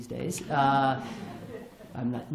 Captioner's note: laughter